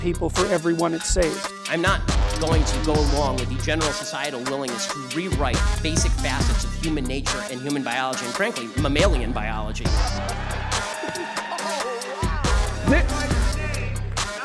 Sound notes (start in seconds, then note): 9.8 crowd cheering